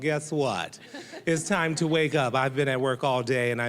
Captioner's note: audience laughing